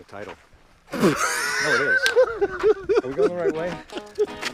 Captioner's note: Pete laughs; upbeat music